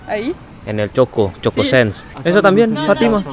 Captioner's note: Spanish; Spanish